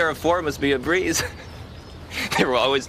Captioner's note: laughs